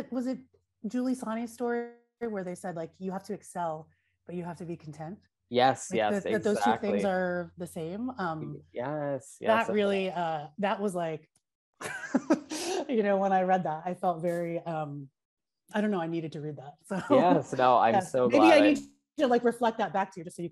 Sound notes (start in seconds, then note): 11.8 laughs